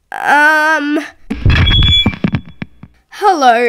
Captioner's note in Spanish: El micrófono hace ruido